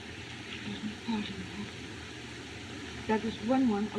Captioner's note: muttering